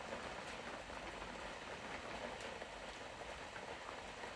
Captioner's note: raindrops tapping on the roof